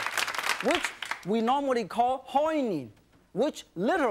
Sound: speaks in foreign language

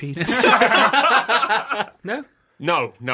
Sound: laughter

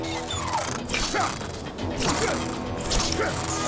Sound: grunting

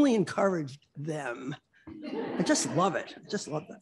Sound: laughter

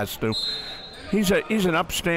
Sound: whistle blows

